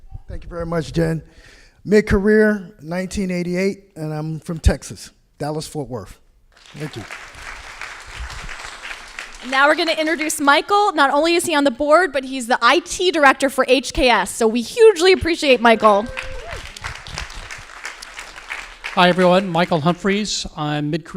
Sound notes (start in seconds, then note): 6.5 crowd applauding; 15.4 crowd applauding